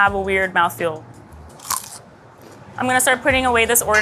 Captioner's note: cucumber crunching